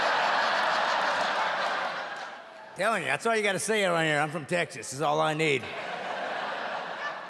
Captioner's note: audience laughing